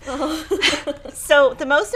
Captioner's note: chuckles